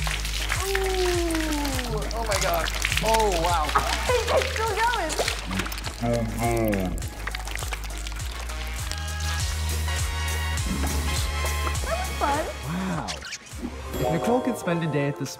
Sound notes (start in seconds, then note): 3.7 laughing